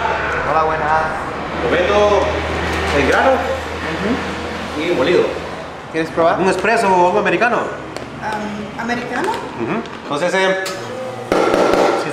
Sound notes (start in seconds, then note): 5.4 in Spanish